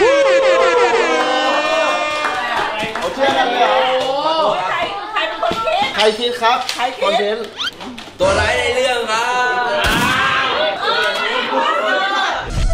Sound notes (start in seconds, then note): 1.0 applauding; 9.8 gunshot fired; 10.8 yelling